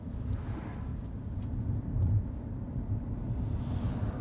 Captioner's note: traffic whirs